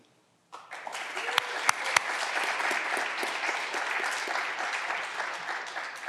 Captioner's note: clapping continues; candidates cheering